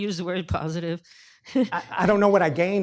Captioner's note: laughs